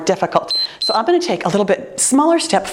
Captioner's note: timer beeps